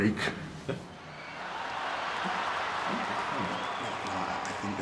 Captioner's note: crowd cheering